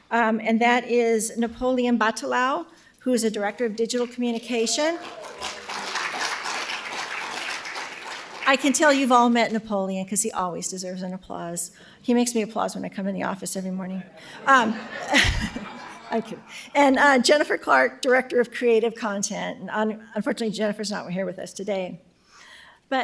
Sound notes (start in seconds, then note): 4.5 audience applauding; 14.1 audience laughing